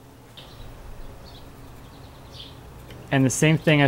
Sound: birds chirping

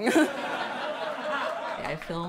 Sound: crowd laughing

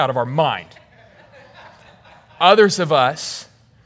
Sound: congregation laughing

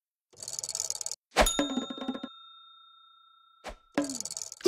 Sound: bell chime

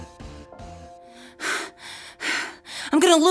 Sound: panting

